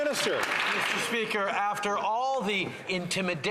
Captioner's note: some Applause